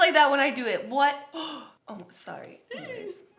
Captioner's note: gasps